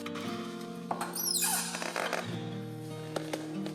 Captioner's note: monitor squeaks